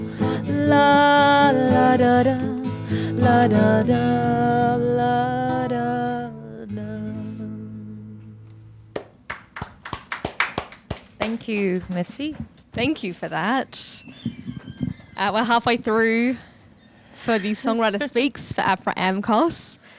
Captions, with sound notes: (all clapping) - Thank you, (speaks foreign language). - Thank you for that. We're halfway through for the Songwriter Speaks for Apra Amcos,